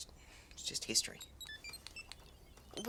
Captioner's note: beeping